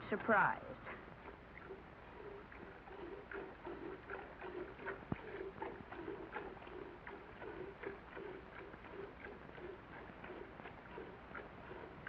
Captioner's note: squirting sound